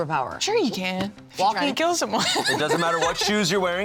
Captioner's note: laughs